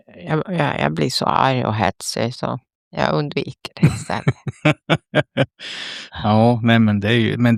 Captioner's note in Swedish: skratt